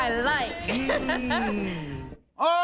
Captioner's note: laughs